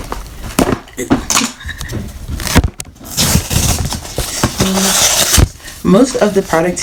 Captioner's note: sounds of me struggling